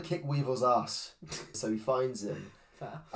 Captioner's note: gently laughs